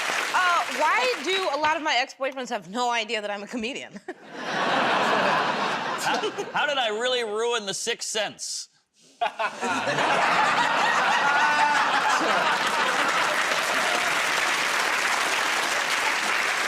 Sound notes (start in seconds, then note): 3.9 laughter; 4.0 chuckles; 9.2 laughter; 9.2 laughs; 14.9 applause